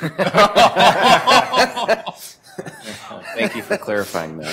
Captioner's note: laughter